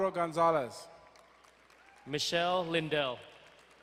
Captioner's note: crowd clapping